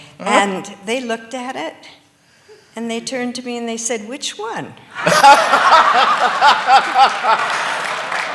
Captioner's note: laughter